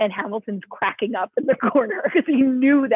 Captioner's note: laughter